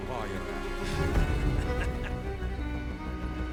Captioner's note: laughs